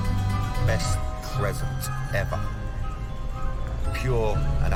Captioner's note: echoing